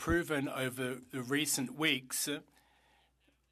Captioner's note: speaking French